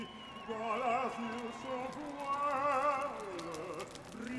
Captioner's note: revelry and fire crackling